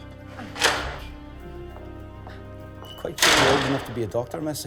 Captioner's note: door opening